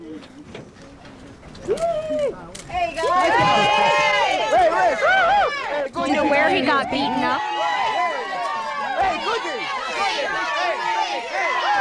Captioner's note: cheers